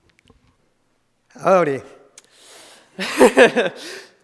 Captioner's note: laughs